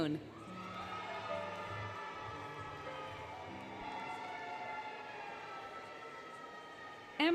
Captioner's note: applause, Cheering, Music